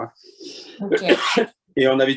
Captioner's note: cough